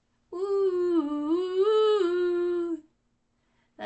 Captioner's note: various "ooh"s